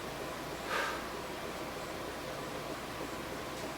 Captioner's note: sighing